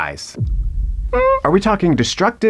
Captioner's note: intense music; Patrick wincing